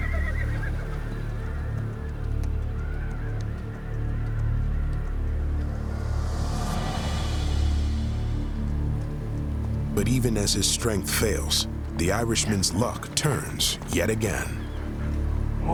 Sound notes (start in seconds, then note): 0.0 horses neigh; 2.9 hoofbeats